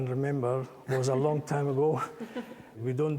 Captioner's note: all chuckling